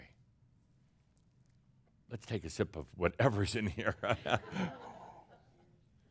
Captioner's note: chuckles